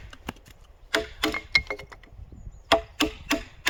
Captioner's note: satisfying carving sounds